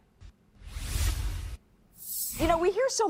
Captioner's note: air whooshing